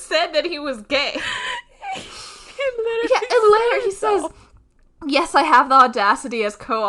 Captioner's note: both laughing; laughing